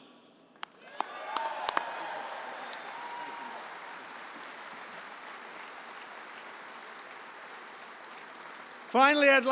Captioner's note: applause